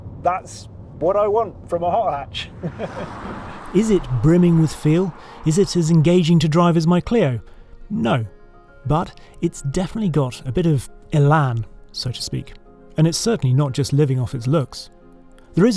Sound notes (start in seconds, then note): 2.4 car roaring; 2.6 laughs